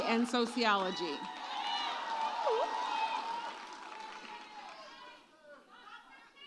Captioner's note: audience cheers and applauds